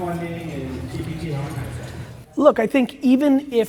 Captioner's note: murmurs